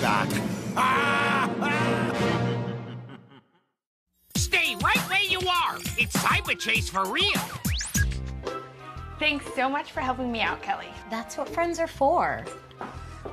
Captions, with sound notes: JUST WAIT. I'LL BE BACK! (EVIL LAUGH)